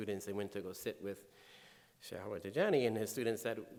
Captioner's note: speaking in foreign language